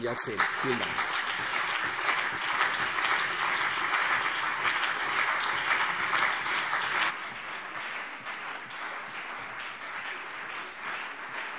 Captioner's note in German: Lang anhaltender Beifall CDU und BÜNDNIS 90/DIE GRÜNEN